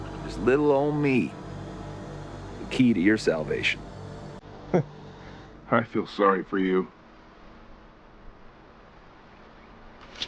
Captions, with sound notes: Just little old me, the key to your salvation. - (chuckles) I feel sorry for you.